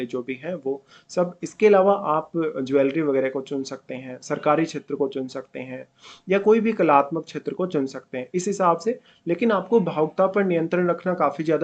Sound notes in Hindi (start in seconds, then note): 3.9 नाक से की जाने वाली आवाज़